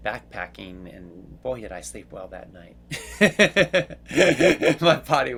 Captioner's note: laughs